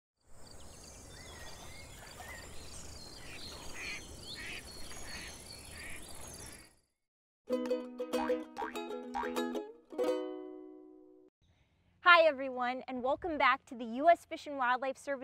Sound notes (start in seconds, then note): 0.0 birds chirping, duck quacking, music playing